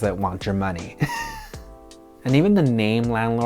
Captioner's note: chuckles